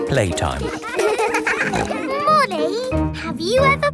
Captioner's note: peppa snorting